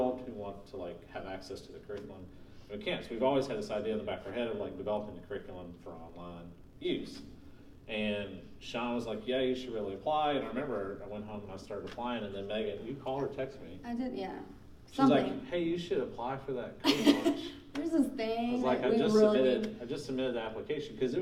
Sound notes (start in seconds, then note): 16.8 laughing